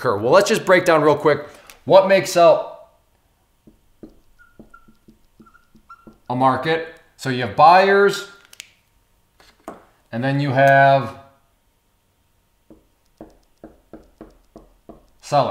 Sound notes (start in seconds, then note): 3.6 marker squeaks; 12.6 marker taps